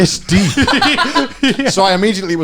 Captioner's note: laughing